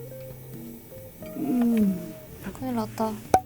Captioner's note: bump